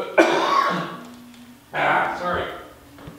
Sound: coughing

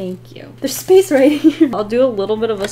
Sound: giggles

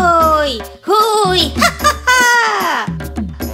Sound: monkeys laugh

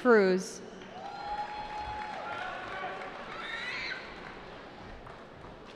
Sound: cheering

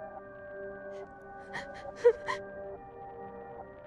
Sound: frightened breathing

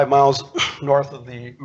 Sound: clears throat

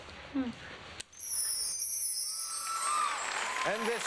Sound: applause

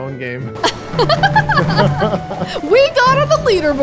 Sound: laughs

